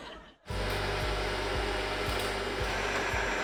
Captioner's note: mixer whirrs